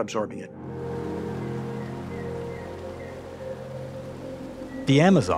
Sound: water whooshing

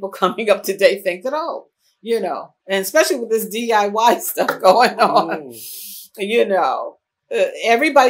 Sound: laughs

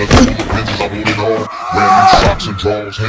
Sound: shouts

